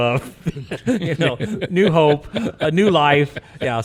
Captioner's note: laughs